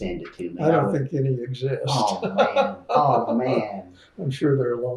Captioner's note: laughs